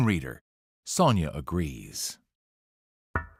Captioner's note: knocking on glass